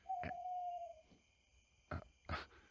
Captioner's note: owl hoots